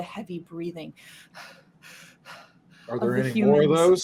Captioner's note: mimicking panting